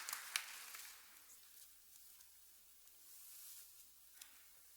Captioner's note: cheers and applause